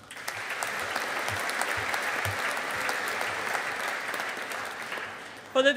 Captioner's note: audience applauding